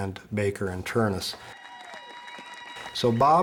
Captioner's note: crowd cheering